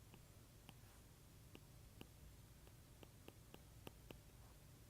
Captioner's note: stylus tapping